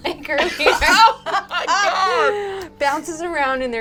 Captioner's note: laughing